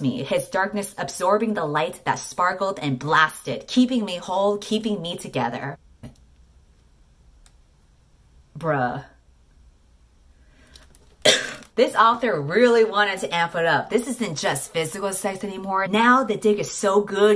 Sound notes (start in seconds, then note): 11.2 cough